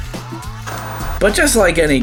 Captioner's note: TV static